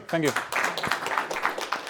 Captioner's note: applause